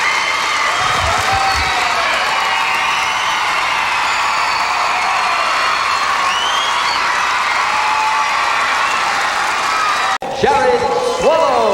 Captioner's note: crowd Cheering